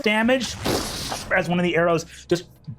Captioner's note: Brennan imitates explosion booming